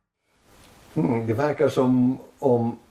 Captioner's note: continues in Swedish